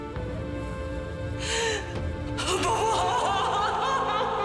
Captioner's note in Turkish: Ağlama sesi